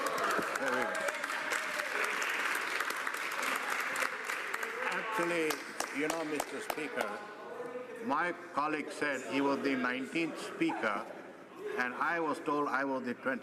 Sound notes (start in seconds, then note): 3.5 cheering